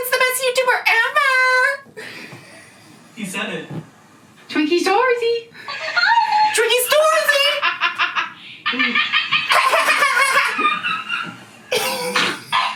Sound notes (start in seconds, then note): 8.6 laughing; 9.4 toy laughing